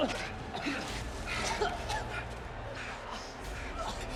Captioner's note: gladiator panting and grunting; gladiator coughing